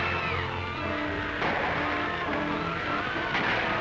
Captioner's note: gunshot; gunshot